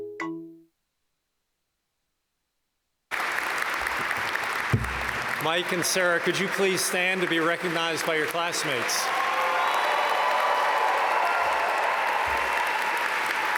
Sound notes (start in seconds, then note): 3.7 audience applaud; 9.7 audience cheer and applaud